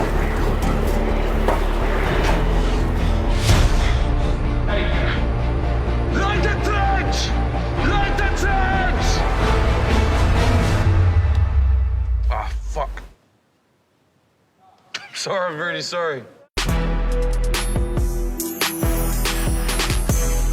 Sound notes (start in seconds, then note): 2.7 breathes heavily; 15.0 chuckles; 16.6 up-beat music plays